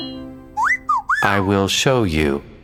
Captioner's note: whistling